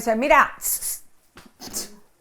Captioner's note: tsks